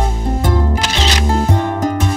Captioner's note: Picture clicking